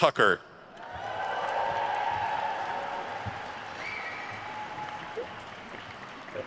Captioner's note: attendees cheering and applauding